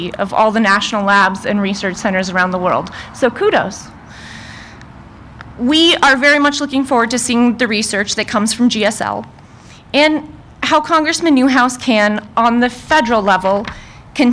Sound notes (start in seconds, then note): none